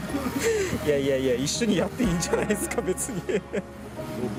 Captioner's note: laughs